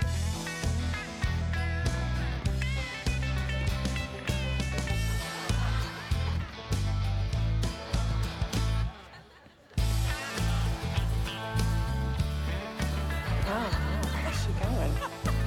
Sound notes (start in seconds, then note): 4.8 laughter; 15.2 laughter